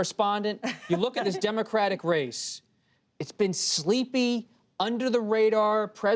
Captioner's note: laughter